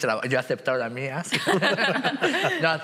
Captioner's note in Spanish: todos ríen